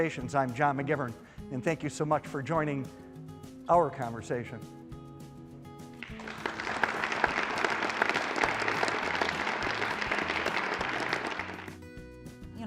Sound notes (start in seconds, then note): 6.0 audience applause; 11.6 light guitar music